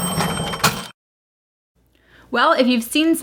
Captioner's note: cash register ding